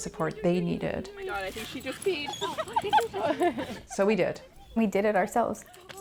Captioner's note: laughter